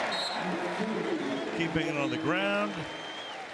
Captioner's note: whistle